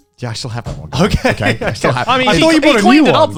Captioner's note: laughs